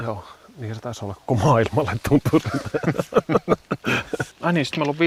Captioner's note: laugh